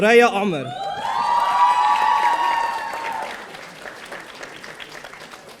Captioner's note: audience applauding